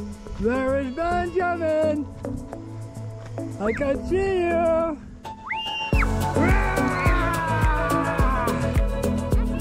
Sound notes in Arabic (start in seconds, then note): 6.3 زئير; 6.3 صراخ